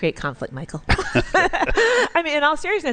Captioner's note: laughter